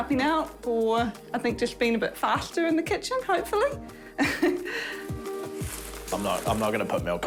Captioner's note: laughs